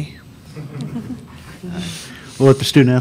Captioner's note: reporters laugh